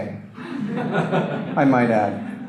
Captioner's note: audience laughter